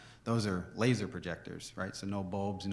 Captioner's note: none